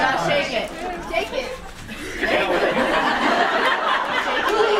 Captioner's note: audience laughs